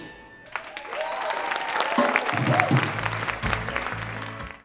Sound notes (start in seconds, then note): 0.4 applause